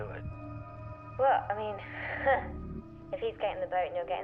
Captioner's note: chuckles